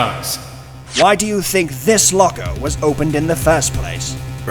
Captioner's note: none